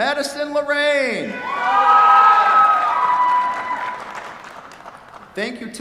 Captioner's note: cheers, applause